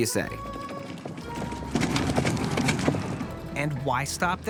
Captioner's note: wheels rumbling